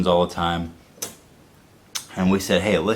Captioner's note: clicks tongue